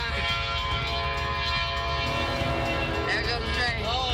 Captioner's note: train horn blowing